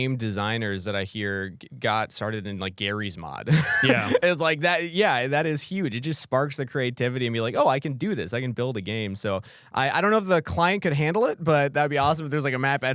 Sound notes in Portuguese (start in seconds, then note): 3.4 risos